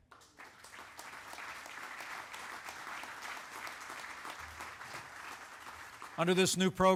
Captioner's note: applause